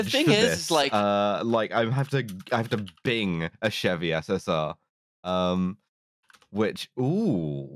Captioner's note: keyboard tapping